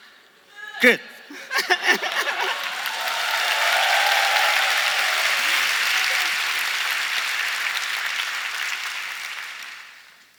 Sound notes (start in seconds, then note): 1.3 laughing, cheering and applause